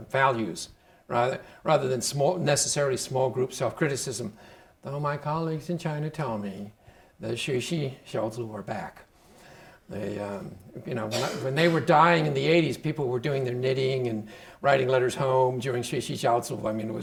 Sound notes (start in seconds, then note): 8.2 speaking Chinese; 15.7 speaking Chinese